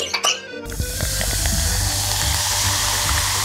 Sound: fizzy drink ASMR start

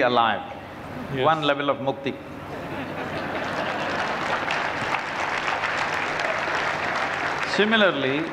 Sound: applause

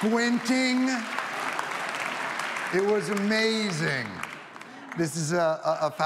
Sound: audience applauding

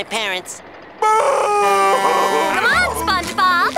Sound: crying

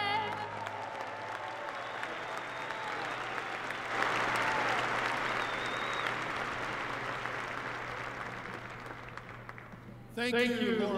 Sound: applause

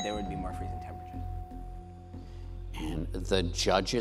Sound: bell dings

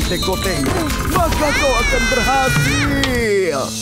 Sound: Wilk yells

